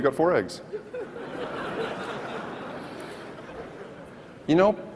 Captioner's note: audience laughs